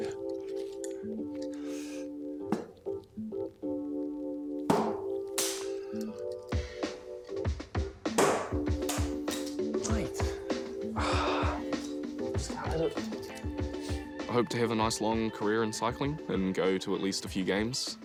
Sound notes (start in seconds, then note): 0.3 playful music; 10.8 sighs